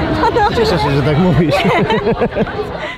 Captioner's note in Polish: Śmiech